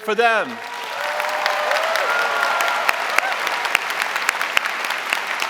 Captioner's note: audience cheering and applauding